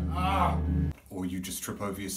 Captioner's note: groans